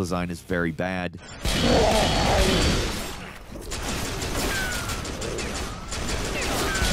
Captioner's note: guns booming; monsters grunting